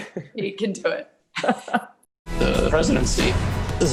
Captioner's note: laughing